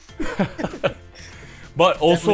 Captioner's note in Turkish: Gergin gülüşler